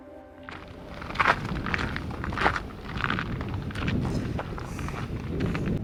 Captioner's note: footsteps